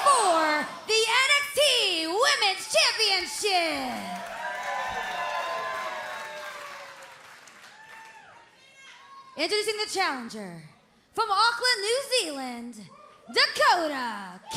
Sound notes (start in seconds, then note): 4.2 crowd cheering